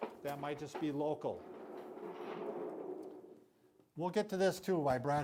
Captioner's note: wheels rolling